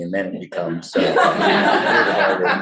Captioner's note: laughter